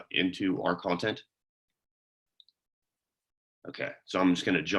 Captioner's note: silence